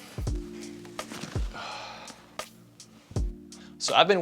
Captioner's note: exhales